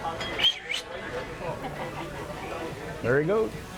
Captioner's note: mouth whistling